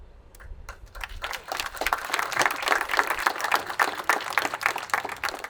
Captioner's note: attendees applauding